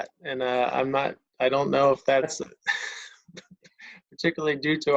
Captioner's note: laughs